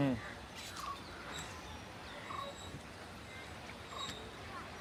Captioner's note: swing creaking